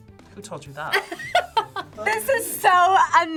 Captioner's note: laughs